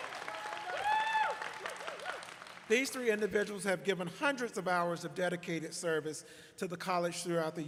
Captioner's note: applause